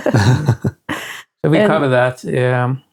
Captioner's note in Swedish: skrattar